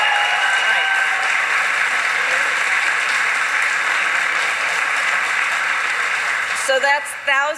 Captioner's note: applause